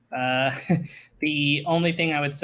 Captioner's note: laughing